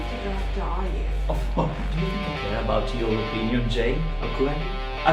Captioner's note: laughs